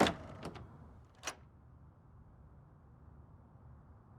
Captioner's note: lock latching